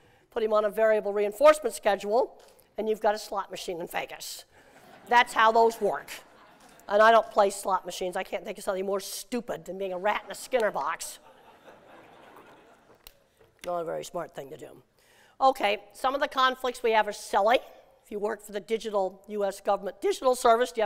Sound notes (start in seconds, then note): 11.2 laughter